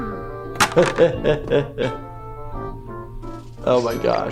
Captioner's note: laughing